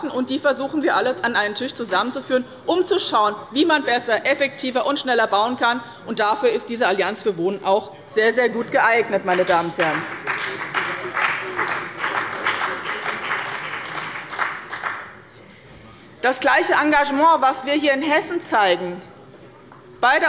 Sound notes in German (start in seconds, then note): 9.3 Beifall bei dem BÜNDNIS 90/DIE GRÜNEN und der CDU